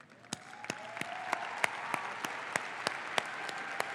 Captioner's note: audience applauds